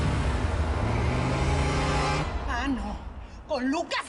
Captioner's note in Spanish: Motor acelera